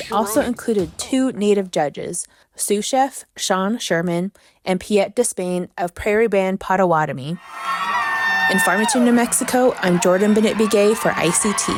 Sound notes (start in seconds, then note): 7.4 crowd cheering